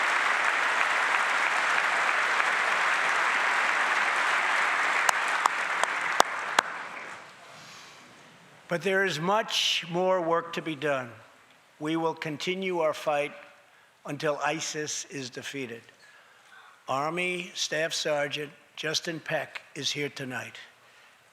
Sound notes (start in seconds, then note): 2.9 applause